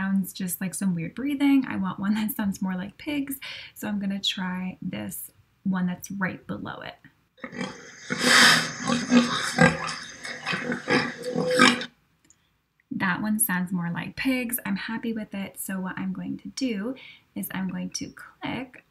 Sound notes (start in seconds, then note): 7.4 hits play button. Pig oinking sounds begin